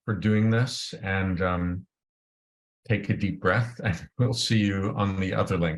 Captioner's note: laughs